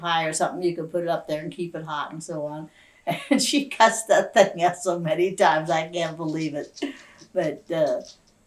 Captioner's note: laughs